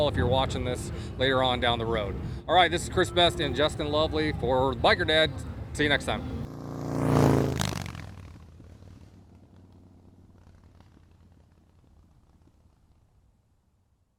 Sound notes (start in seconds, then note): 6.6 bike engine roaring